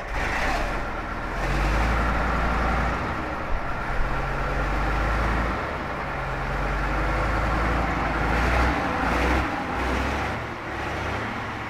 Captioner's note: revving up the engine